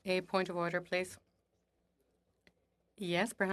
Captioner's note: speaking French